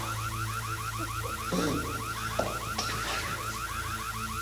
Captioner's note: dramatic music; alarm blaring